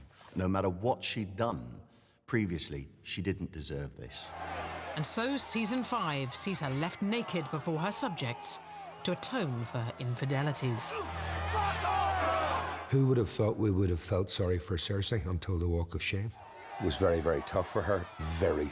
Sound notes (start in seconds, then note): 12.0 shouting